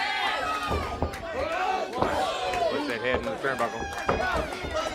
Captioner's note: crowd chatter